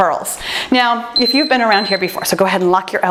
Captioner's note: timer beeps